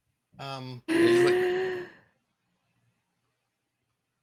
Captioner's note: inhaling